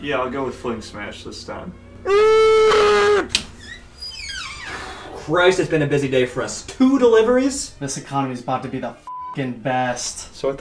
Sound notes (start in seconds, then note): 2.1 Target employee grunts; 3.9 door squeaks; 9.1 beep